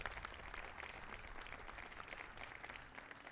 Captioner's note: applause